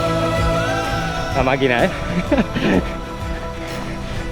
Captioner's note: laughs